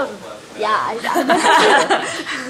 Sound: laughter

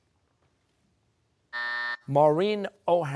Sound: buzzer

